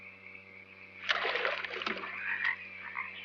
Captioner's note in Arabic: رش الماء; نعيق الضفادع